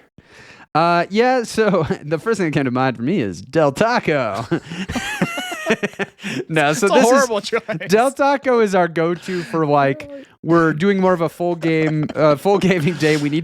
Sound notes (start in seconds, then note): 4.3 laughing